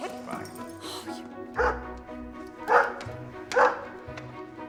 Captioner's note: Larry barking